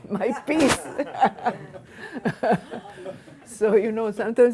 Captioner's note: laughing